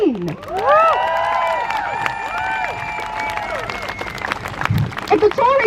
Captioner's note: crowd Cheers